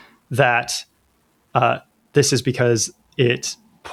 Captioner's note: uh